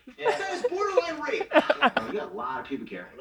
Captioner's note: laughs